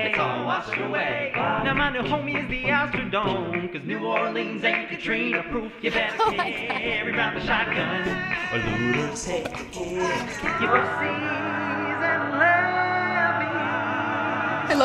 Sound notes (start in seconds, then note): 5.8 laughs